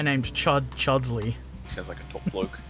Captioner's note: laughs